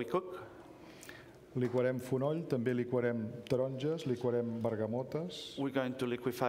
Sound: speaking catalan

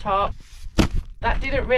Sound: doof

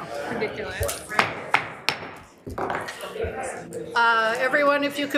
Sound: gavel banging

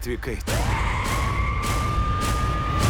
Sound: dramatic music continues; siren wailing; tires screech

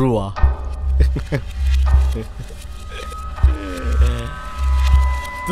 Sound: Pradhik Laughs

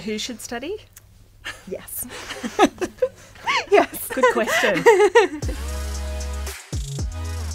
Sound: laughter

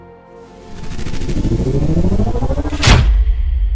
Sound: sci-Fi Whoosh

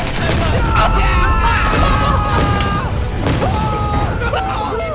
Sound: boom

